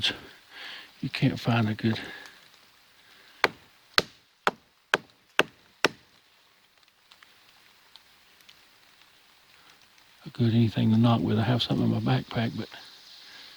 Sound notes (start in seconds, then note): 3.4 stick knocking against tree